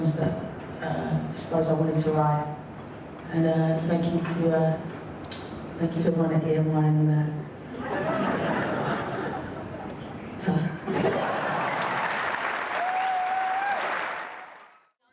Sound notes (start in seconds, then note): 7.7 audience laughs; 11.0 audience applauds